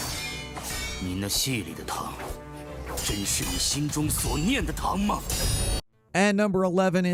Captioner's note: dramatic music; swords clanging; character speaking foreign language